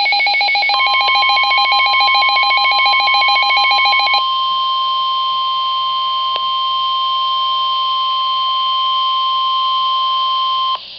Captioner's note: WR-100 warning alarm; 1050 Hz tone